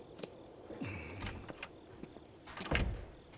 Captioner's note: door opens; door clicks shut